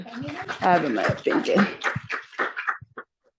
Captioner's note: applause